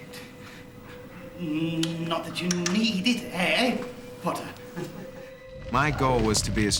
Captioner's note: stuttering